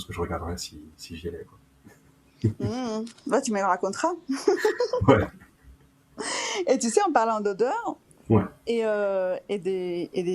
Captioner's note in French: rires